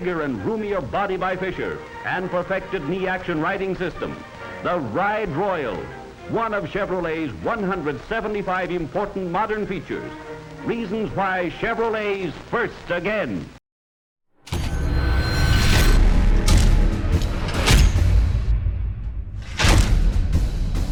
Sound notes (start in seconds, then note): 14.8 metal clangs; 16.5 slow intense music